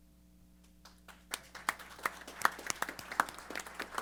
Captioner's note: applause